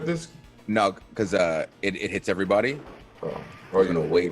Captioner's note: laugh